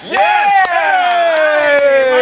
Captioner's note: cheering